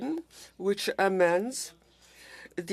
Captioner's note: speaking French